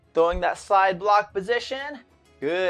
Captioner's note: none